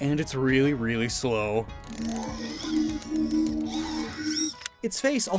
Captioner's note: Regiwood’s cry